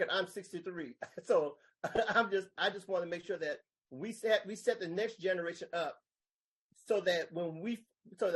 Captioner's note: laughs